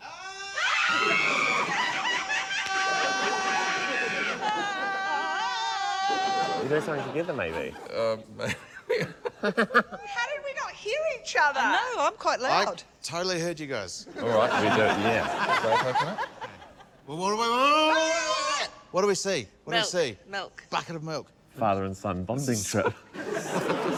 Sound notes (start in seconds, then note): 0.0 both scream excitedly; 0.1 yells; 4.2 all scream in unison; 14.1 laughter; 17.8 justine yells; 23.2 laughs